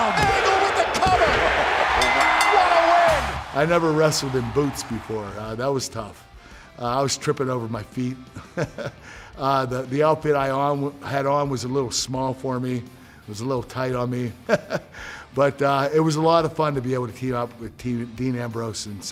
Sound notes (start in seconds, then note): 8.3 laugh; 14.5 laugh